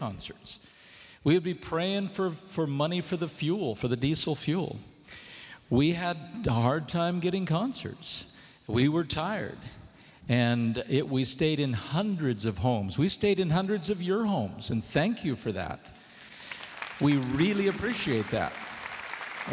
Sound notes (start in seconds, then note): 16.0 applause